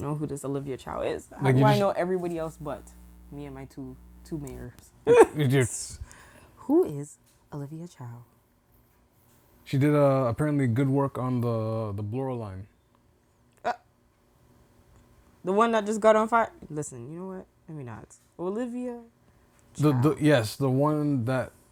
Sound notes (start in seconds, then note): 5.1 laughing